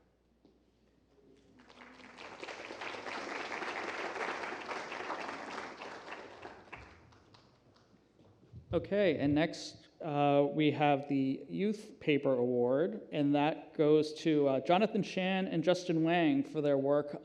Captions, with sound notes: [APPLAUSE] And next we have the Youth Paper Award, and that goes to Jonathan Chan and Justin Wang for their work